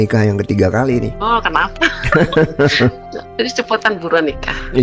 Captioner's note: tertawa